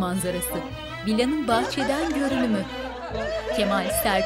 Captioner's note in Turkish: Gülme sesleri